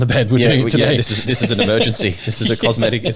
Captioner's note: laughing